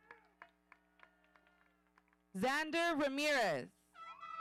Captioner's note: audience applauding